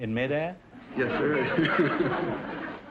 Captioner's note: audience laughter; laughing